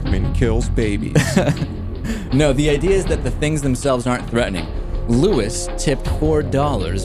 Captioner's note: laughs